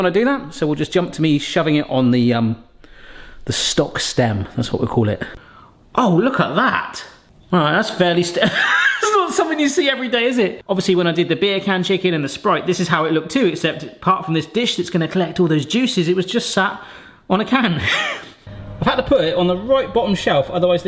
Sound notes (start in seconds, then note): 8.4 laughing